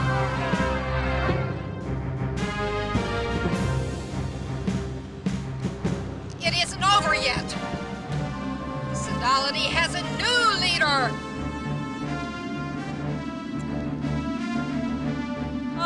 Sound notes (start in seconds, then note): 6.4 people cheering; 11.5 spectators cheer; 13.0 upbeat music